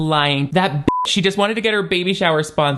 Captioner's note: beep